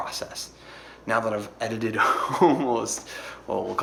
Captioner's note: laughs